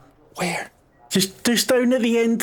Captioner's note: whispering